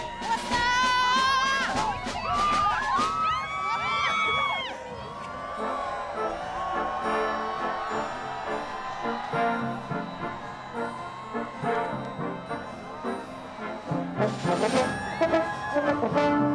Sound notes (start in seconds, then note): 2.6 cheering; 5.8 band playing